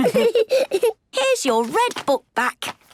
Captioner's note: laughs